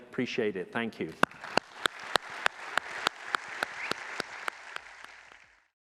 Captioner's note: applause